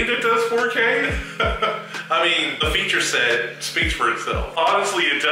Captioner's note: laughs